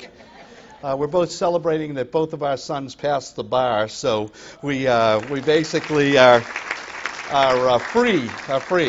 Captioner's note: applause